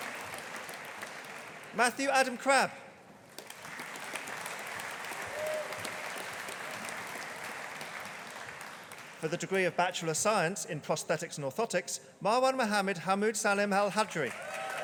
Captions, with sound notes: Matthew Adam Crabbe. (AUDIENCE APPLAUDING) For the degree of Bachelor of Science in Prosthetics and Orthotics, Marwan Mohammed Hamood Salim Al-Hajri.